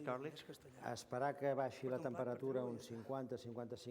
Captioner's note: non-english speech